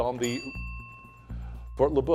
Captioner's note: bell dinging